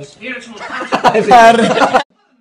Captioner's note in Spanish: se ríe